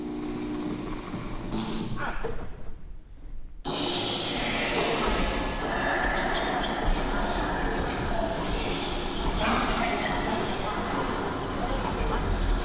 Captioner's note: disturbing echoes and growls